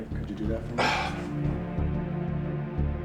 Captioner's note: scoffs